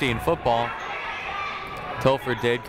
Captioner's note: people shouting in the crowd